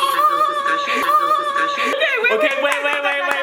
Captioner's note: cackling